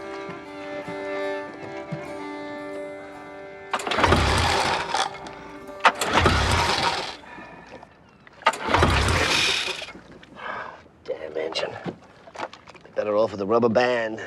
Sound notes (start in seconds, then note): 6.4 sighing